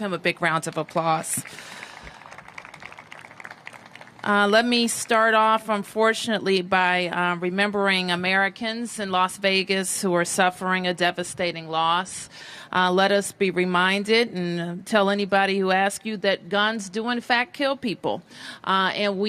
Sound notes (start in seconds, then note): 0.6 applause